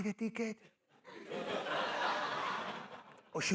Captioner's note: laughter